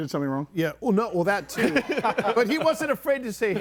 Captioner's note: group laughs